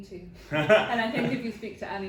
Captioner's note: laughing